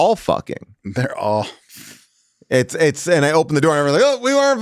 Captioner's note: chuckles